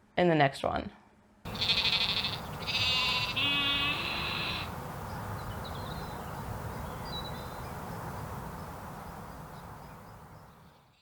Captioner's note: sheep noises and birds singing